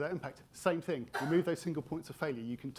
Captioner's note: attendee coughing